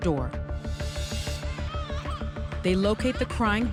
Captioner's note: baby crying